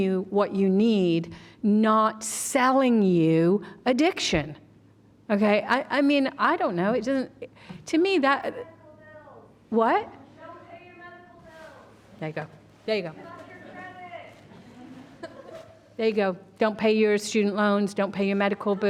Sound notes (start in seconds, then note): 9.9 shouting audience member